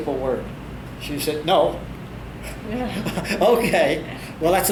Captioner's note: both Laugh